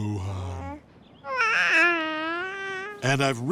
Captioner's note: cooing